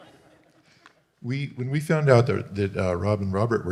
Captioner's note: audience Laughing